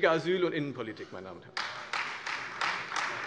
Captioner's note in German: Beifall Freie Demokraten und AfD